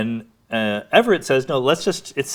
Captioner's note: none